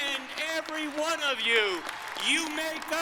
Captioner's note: cheers and applause